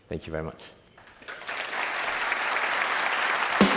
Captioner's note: applause